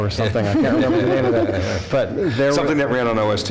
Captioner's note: laughter